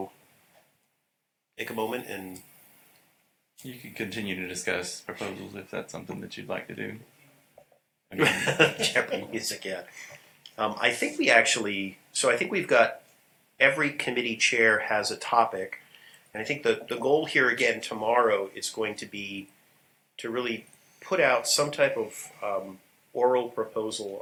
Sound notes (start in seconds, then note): 8.2 laughter